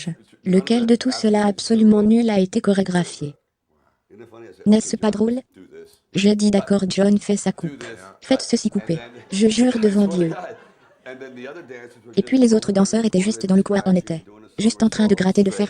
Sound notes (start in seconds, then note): 8.8 laughter